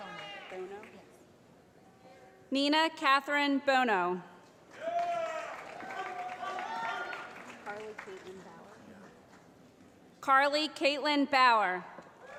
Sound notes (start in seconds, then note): 4.8 shouting